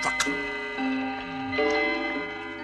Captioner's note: clocks chime